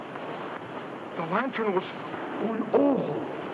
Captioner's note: speaks in foreign language